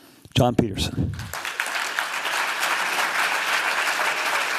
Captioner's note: applause